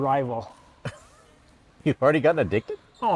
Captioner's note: laughs